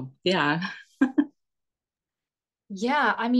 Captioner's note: chuckles